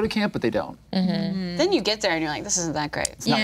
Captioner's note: group humming